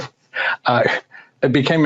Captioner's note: laughing